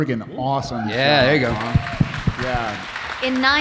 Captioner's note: audience cheering